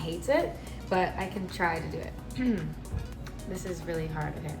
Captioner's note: clears throat